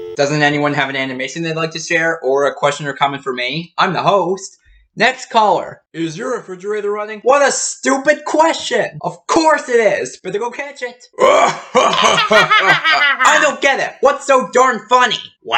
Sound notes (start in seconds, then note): 0.0 dial tone; 11.3 Zorak and Moltar laugh